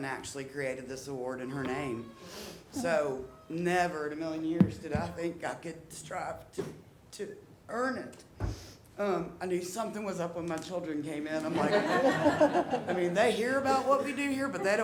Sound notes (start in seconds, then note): 11.4 audience laughing